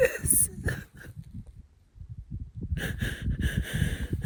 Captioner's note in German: weint